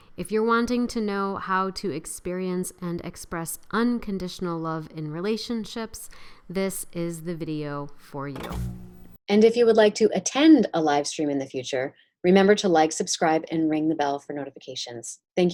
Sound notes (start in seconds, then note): 8.5 vintage movie projector turns off